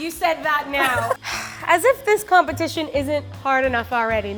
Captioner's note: exhales sharply